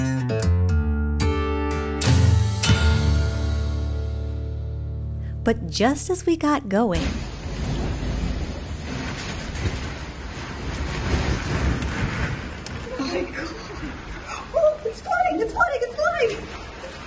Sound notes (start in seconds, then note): 7.0 rain Falling